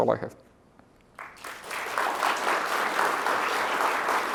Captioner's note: applause